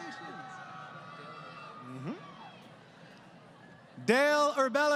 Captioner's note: crowd Cheering